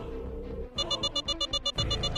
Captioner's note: alarm